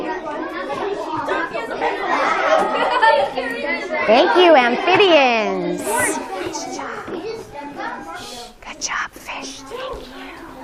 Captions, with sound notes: Thank you Amphibians. [whispers] Nice job. Good job fish, thank you.